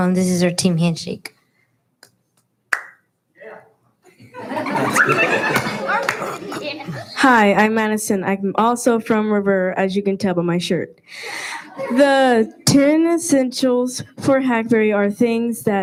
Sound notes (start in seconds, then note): 2.7 hands clap; 4.2 laughing